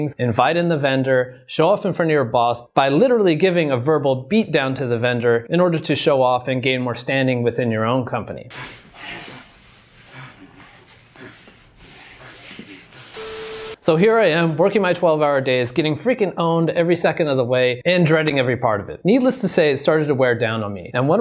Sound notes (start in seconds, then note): 8.6 panting loudly; 13.0 static buzzing